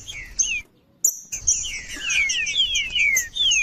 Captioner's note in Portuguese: trinca ferro cantando